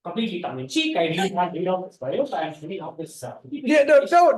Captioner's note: speaks faintly